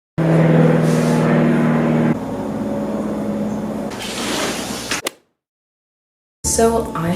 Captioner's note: golf hit sound effect; window closes; airplane noises